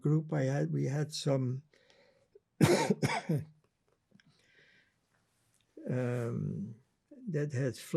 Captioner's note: coughing